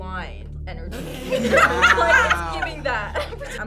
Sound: group laughs

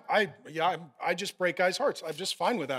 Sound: stammers

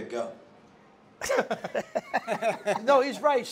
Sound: laughing

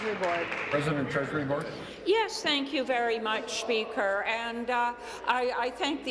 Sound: applause

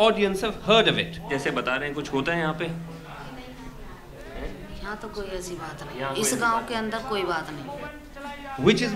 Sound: non-english speech

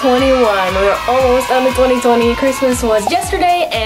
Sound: children cheering

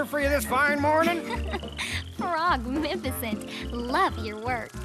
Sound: giggling

